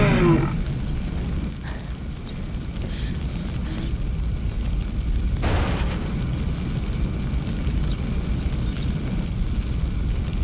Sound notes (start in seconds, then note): 0.0 Roaring